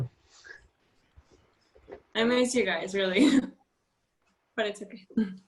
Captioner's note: laughter